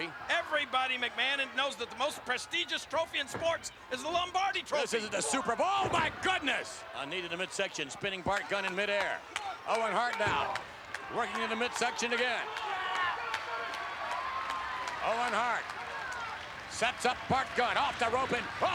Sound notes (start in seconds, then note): 9.3 attendee applauding; 12.8 attendees cheering